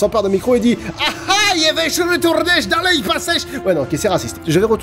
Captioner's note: heavy Brazilian accent